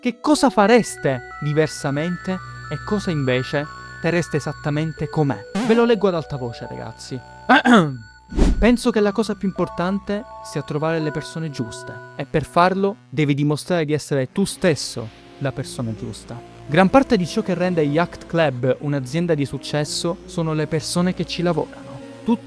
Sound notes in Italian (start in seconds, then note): 7.5 ahem